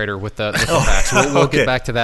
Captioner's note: exasperated laugh